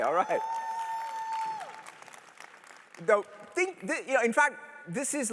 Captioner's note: cheers